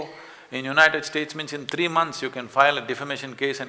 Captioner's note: snaps his fingers